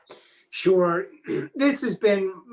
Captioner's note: clears throat